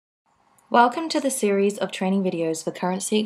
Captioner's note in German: Voiceover